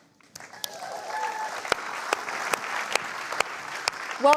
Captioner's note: applause